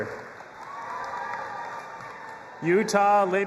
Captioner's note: audience applauding and cheering